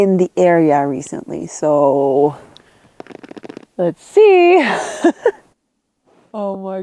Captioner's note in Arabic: ضحكة مكتومة